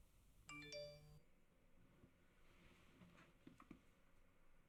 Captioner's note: phone beeps